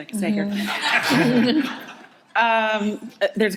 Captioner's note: audience laughing